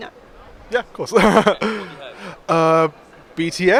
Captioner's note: laughs